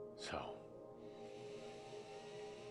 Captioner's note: none